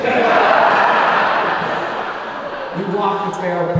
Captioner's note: audience laughing